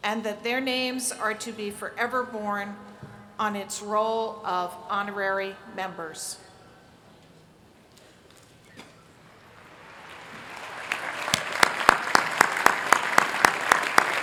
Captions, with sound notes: and that their names are to be forever borne on its role of honorary members. [APPLAUSE]